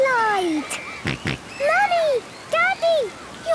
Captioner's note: George snorts